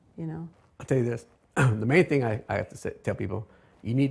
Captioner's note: coughs